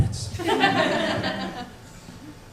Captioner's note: chuckles from audience